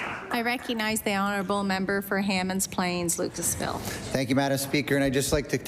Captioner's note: applause